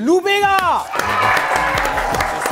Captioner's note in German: Jubel, Applaus